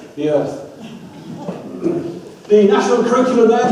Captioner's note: audience laughs